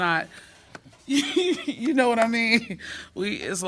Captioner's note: laughter